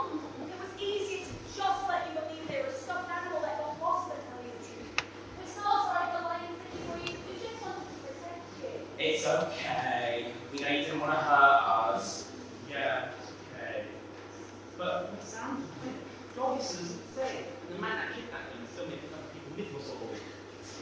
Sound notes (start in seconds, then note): none